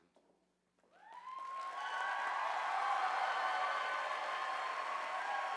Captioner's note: audience applauding